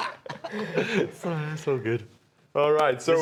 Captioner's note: laughing